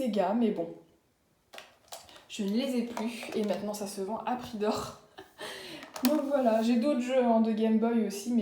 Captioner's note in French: rires